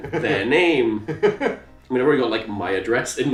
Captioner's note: laughing